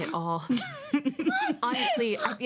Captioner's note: women laugh